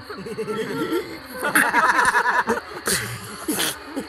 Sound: laughs

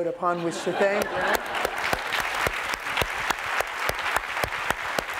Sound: applause

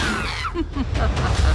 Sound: all hiss; laughs

